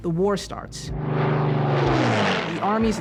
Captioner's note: engine roaring